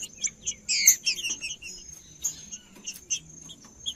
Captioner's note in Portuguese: trinca ferro cantando